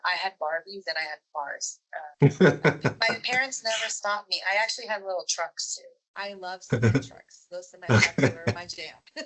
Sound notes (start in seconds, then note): 2.2 laughs